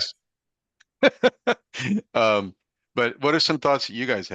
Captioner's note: person laughing